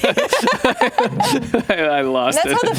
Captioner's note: both laugh